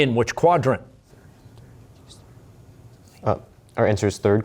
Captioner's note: whispering